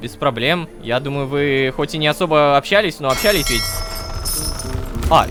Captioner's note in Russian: Звук корабельного колокола